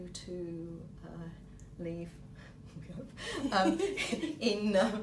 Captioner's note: laughter